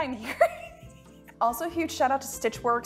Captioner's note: laughing